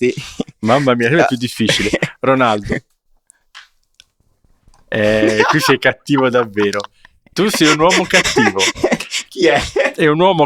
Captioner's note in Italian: risate